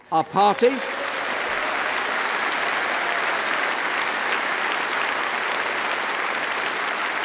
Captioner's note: applause